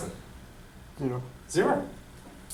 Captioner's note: voiceover